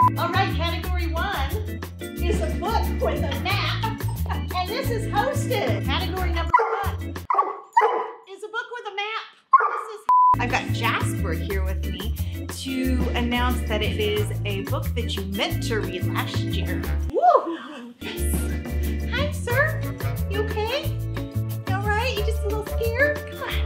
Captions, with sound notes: All right, category one is a book with a map and this is hosted -- Category number -- [DOG BARKS] -- is a book with a map. This is -- I've got Jasper here with me to announce that it is a book that you meant to read last year. Whoo! Yes. Hi, sir. You okay? You all right? You just a little scared?